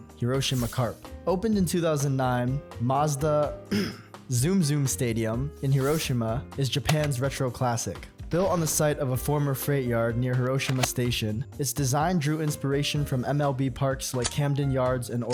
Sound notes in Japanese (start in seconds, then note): 3.6 咳払い